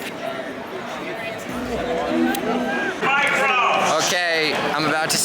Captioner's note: crowd chattering